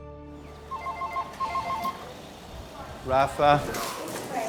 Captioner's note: phone ringing